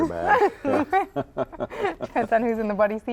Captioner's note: laughing